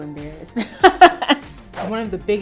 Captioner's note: laughs